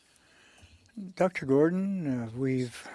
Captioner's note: speaking French